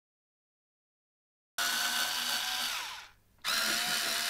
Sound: screwdriver ASMR noises

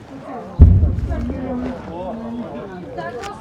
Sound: explosion sound

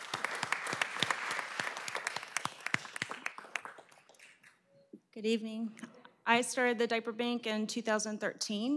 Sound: applause

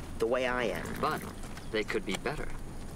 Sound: horse snorts

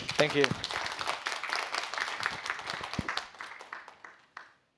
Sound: applause

